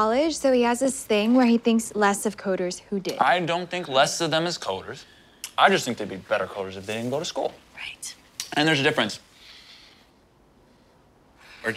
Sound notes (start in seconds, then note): none